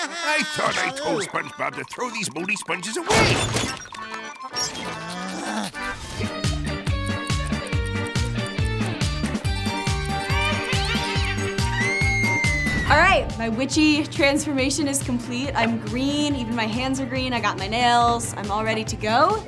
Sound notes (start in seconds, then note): 11.6 screaming